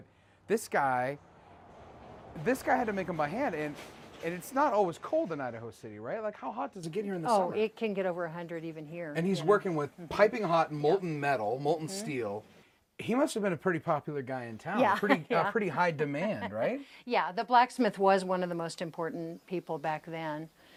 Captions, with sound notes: but this guy, this guy had to make them by hand, and it's not always cold in Idaho City, right? How hot does it get here in the summer? >>Oh, it can get over 100 even here. >>And he's working with piping hot, molten metal, molten steel, he must have been a pretty popular guy in town. A pretty high demand, right? >>(Laughs) Yeah, the blacksmith was one of the most important people back then.